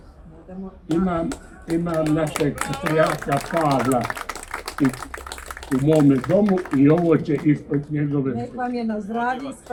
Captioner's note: applause